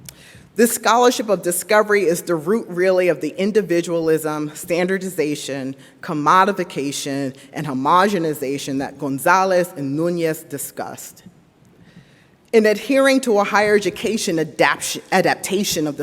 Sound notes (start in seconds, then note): none